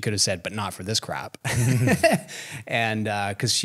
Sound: laughs

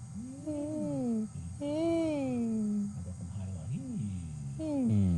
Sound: patient humming

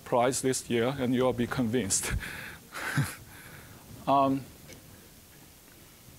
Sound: chuckling

